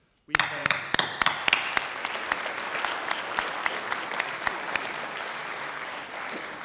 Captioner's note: sustained audience applause